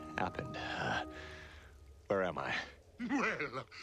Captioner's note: groggily